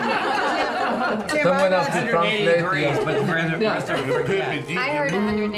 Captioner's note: speaking foreign language